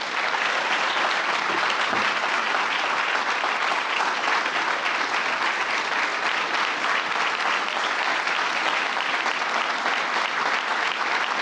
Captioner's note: applause